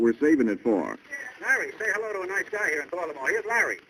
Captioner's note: on phone